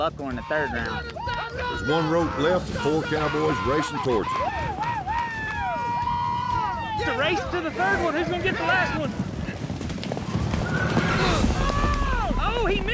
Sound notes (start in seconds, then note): 4.9 shouting; 9.8 hoofbeats